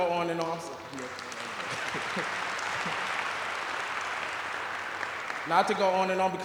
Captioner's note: applause